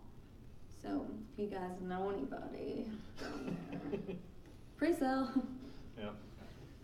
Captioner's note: laughing